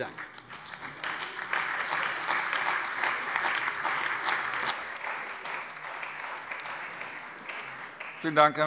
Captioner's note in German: Beifall bei der CDU und dem BÜNDNIS 90/DIE GRÜNEN